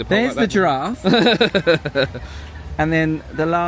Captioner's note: laughing